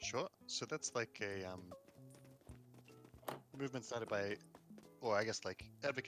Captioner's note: none